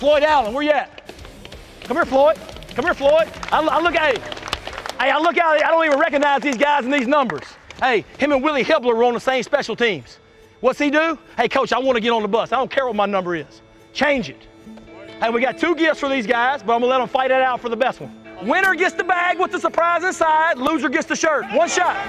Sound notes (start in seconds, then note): 3.7 clapping